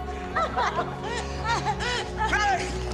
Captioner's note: laughing